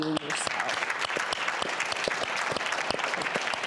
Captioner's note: applause